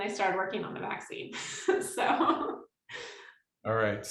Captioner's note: laughs